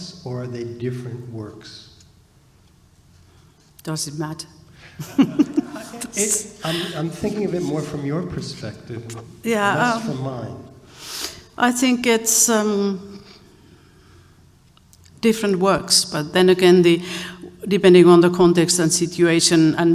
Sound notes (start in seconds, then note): 4.9 laughter